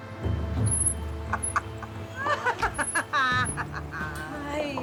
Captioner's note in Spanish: Risas